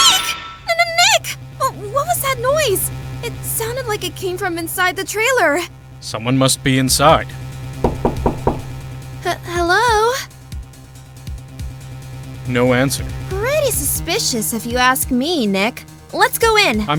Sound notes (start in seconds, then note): 7.8 knocking